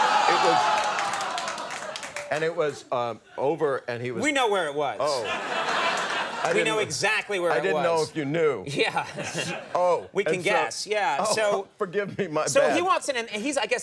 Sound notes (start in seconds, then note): 0.0 audience exclaims; 5.1 audience laughs